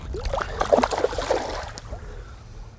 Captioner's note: splashing